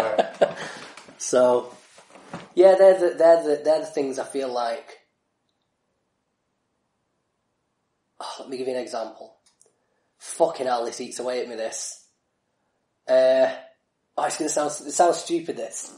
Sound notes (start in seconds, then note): 5.0 silence